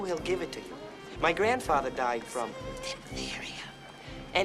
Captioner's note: whispers